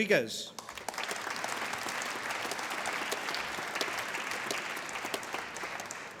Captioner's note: applause